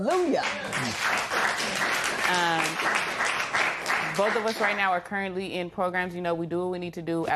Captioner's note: applause